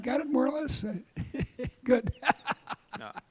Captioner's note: laughing